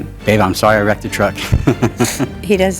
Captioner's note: chuckles